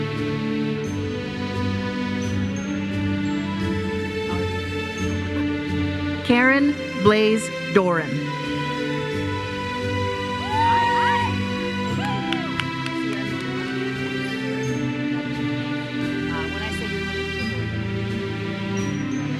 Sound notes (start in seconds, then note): 10.3 audience cheers and applauds